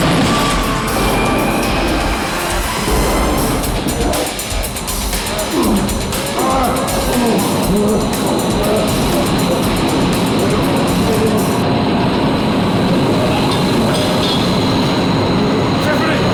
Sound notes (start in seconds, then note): 10.8 fan whirring